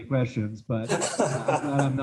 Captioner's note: laughs